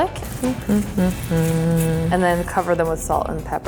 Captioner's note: humming